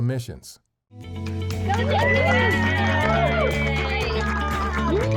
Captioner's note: cheers and applause